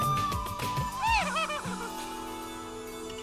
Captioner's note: Ana laughing